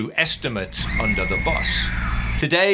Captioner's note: child screaming